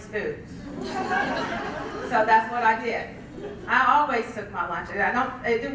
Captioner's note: laugh